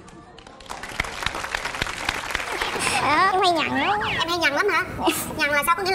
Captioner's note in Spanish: Aplaudir